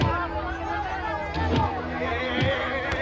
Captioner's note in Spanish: Golpes